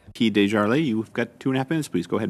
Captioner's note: speaking French